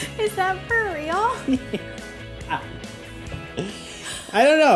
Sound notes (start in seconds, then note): 1.4 laughter